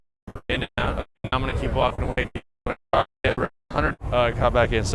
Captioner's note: crackles